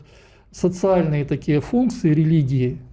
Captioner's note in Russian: none